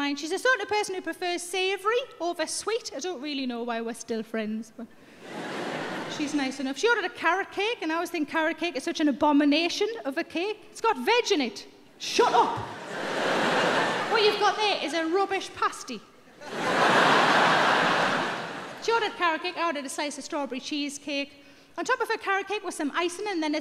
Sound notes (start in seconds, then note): 5.1 audience laughs; 12.6 audience laughs